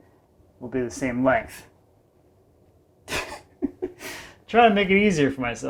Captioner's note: chuckles